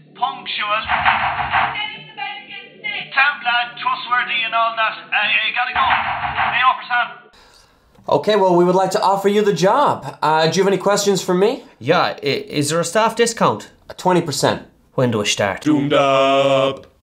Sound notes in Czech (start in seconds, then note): 0.8 hlasité rány na dveře toalety; 5.7 další hlasité rány